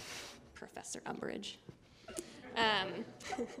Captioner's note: laughter